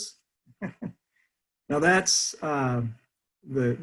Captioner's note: laughter